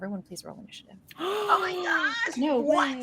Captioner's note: Robin gasps; laughs